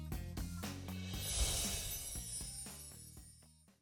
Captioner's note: chiming